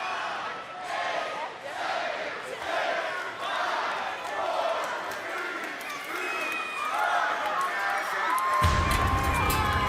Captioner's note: crowd counting down